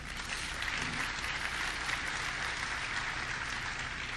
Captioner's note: audience clapping